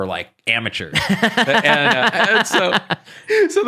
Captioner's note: laughing